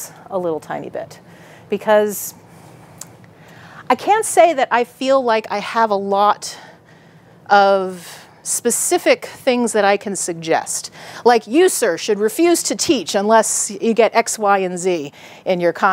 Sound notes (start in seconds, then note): none